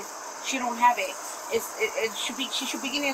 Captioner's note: stuttering